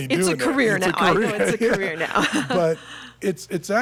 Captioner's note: both laughing